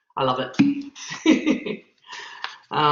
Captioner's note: laughs